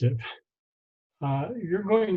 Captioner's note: laughing